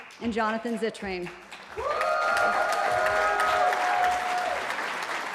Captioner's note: cheering